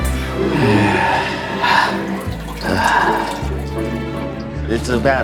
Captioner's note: peeing sounds